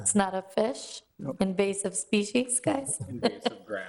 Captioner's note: laughs